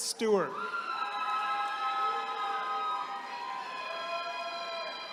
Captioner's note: attendees cheering